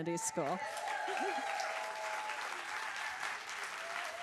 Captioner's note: applause